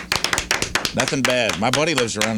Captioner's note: clapping